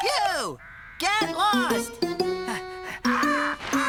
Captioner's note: panting